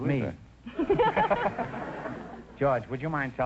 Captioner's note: laughing